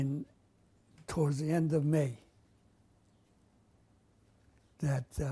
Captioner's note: pauses for 3 seconds